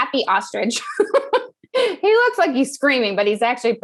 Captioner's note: laugh